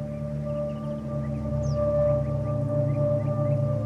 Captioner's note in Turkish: Kuş sesleri